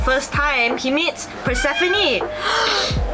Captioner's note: meow; inhale